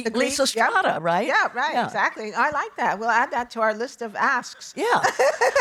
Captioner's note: laughing